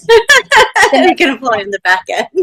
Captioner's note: laughing